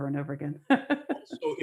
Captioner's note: laughs